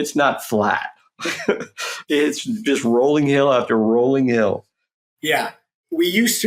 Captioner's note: laughs